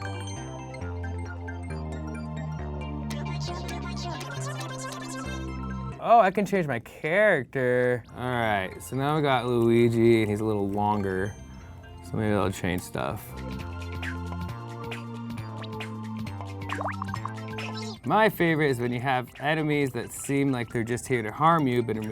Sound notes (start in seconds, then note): 0.1 upbeat music; 14.2 playful music; 16.7 popping